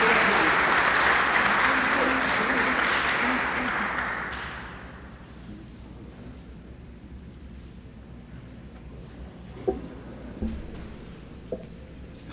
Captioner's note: applause